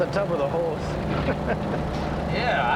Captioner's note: Joe chuckling